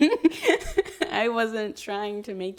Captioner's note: chuckles